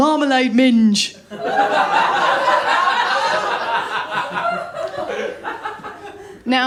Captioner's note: laughter